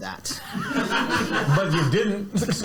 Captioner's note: audience laughs